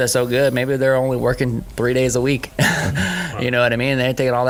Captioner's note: laughing